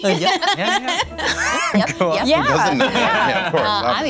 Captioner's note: laughter